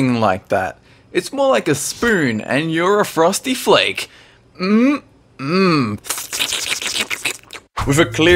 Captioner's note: slurp